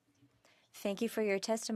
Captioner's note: speaking French